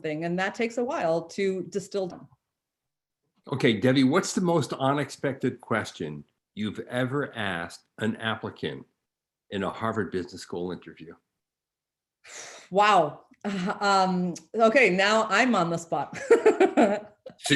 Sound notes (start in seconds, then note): 12.7 exhales deeply; 16.5 laughing